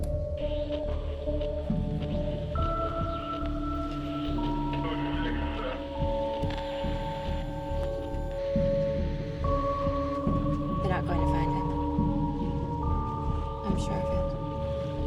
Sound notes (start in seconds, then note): 0.8 radio static hissing